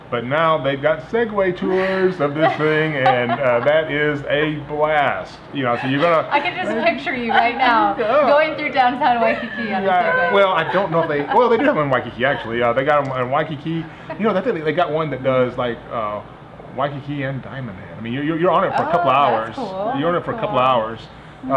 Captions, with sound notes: But, now they've got Segway tours of the thing. (all laughing) And that is a blast. You know, so you-- - I can just picture you, (laughing) right now, going through downtown Waikiki on a Segway. - You gotta, well, I don't know if they, well, they did have them on Waikiki actually. They got 'em on Waikiki, you know, they've got one that does like Waikiki and Diamond Head. I mean, you're on it for a couple of hours. - That's cool. - You're on it for a couple of hours.